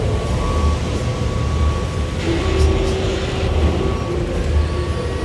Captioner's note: construction commotion